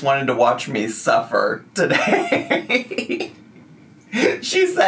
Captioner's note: laughs